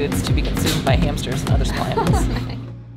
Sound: laughs

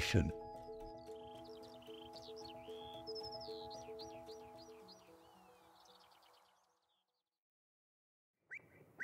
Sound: skylark singing

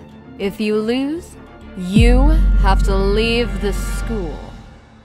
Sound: none

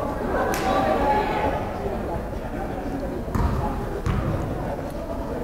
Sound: crowd chattering

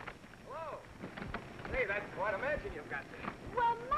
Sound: none

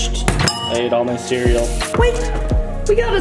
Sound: bowl clinks; water splashes

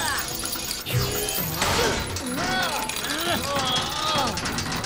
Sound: grunting

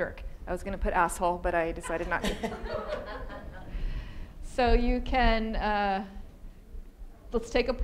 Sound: audience laughing

